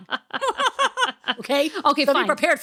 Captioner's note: laughing